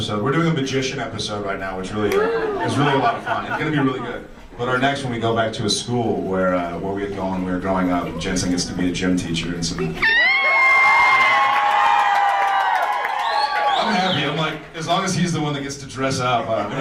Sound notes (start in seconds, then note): 10.0 audience laughs and screams